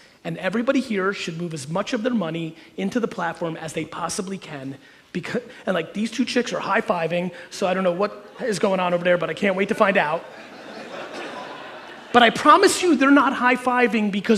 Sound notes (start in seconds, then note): 9.4 audience laughing